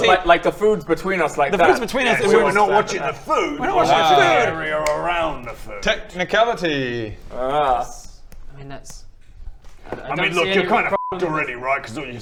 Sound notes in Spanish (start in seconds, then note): none